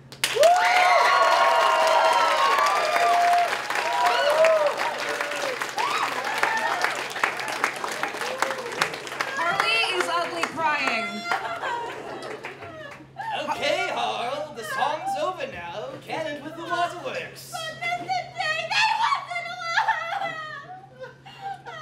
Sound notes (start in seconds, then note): 0.0 applause; 9.3 Harley is ugly crying